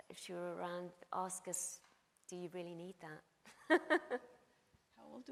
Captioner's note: laughs